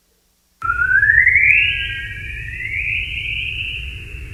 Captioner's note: whistling